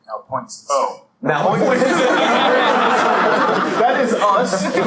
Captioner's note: laughter